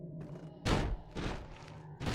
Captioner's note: loud banging